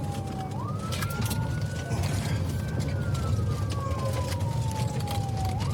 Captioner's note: siren wailing